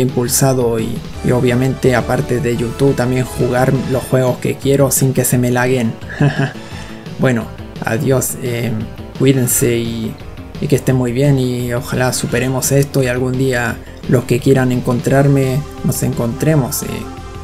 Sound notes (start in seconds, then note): 6.1 haha